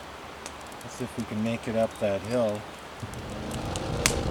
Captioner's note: ha ha